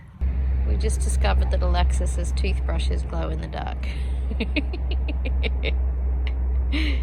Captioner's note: giggles